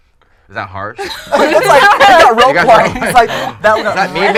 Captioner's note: all laughing